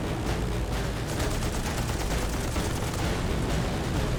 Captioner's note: gunfire